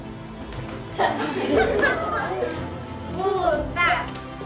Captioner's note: giggling